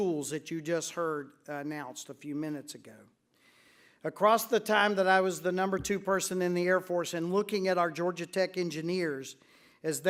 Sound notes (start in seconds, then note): none